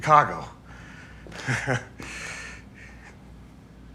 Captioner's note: nervous laugh